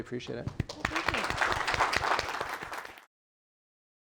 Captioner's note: applause